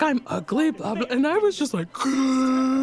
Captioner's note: gasps